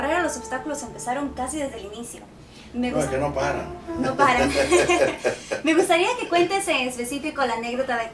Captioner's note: laugh